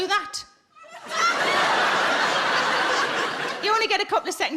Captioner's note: audience laughing